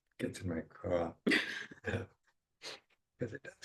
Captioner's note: chuckling